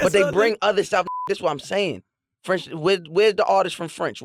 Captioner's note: beep